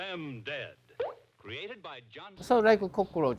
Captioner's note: bubble popping